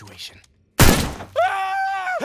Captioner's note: gun shot; very girly screaming